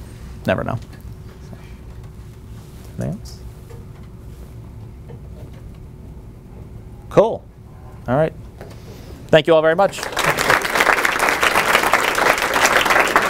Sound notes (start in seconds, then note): 9.8 applause